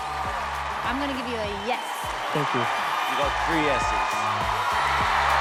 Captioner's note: cheering